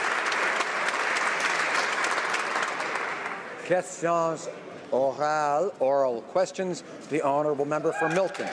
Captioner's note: some Applause